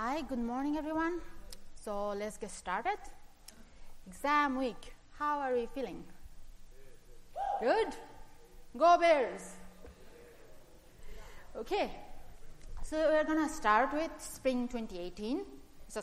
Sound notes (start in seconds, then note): 7.1 cheer